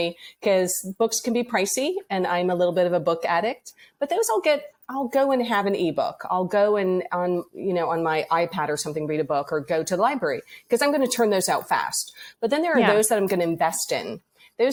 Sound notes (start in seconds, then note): none